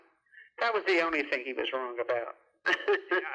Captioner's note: laughs